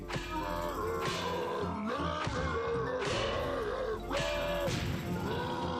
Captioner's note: grunting in rhythm